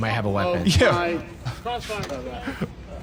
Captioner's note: laughs